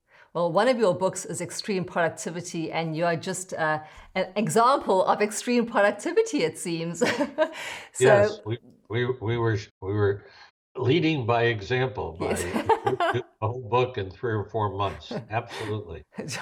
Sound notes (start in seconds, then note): 7.9 laughs